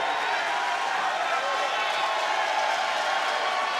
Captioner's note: crowd cheers